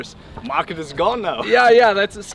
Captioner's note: laughs